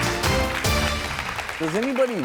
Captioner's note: upbeat instrumental; clapping